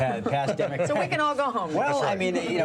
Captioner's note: laughter